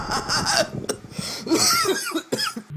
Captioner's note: cough